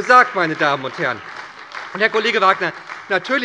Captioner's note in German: Beifall bei der SPD